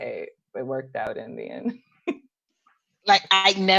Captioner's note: laughs